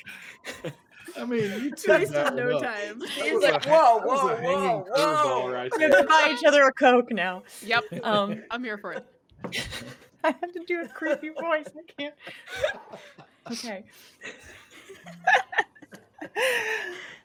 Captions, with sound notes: - I mean, you took that well. - Wasted no time. - Whoa, whoa, whoa, whoa. - You can buy each other a Coke now. - Yep. I'm here for it. - I have to do a creepy voice. I can't. (exhales) Okay. (laughing)